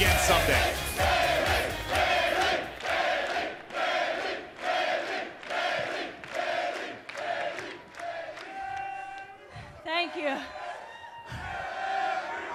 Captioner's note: fans chanting